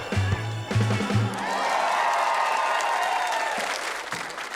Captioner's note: cheering, applause